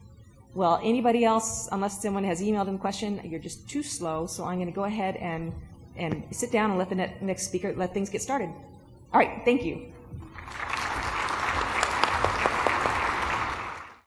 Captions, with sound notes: Well, anybody else-- Unless someone has emailed a question, you're just too slow, so I'm going to go ahead and sit down and let the next speaker-- let things get started. All right. Thank you. ( applause )